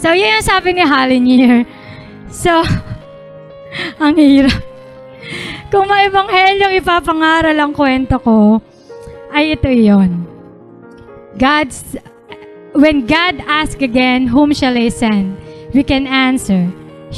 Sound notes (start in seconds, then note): 2.9 laughing